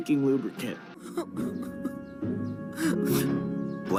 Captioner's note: sobbing noises